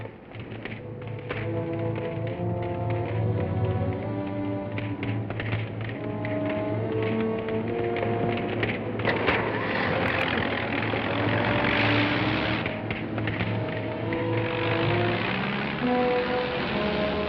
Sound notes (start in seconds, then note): 0.4 dramatic music; 3.9 flames crackling; 9.4 truck whirring